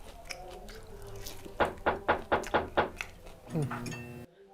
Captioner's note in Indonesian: suara mengetuk pintu